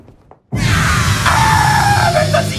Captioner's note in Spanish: Grita